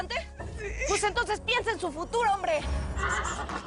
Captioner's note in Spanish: Llorando